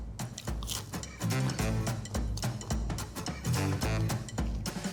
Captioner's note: toast crunching